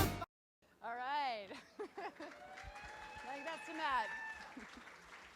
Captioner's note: clapping